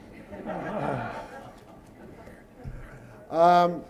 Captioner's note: laughter